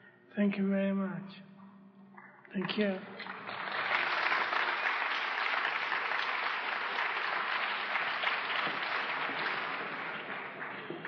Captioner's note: clapping